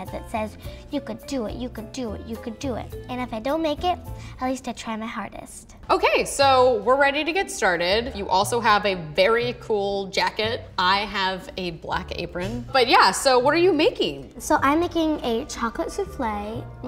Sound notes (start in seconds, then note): none